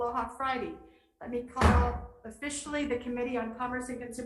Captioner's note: gavel bams